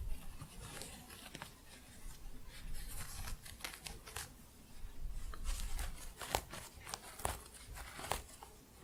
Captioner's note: crunchy scratching